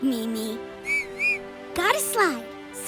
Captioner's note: Mimi whistles